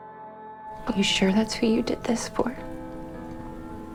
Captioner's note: voiceover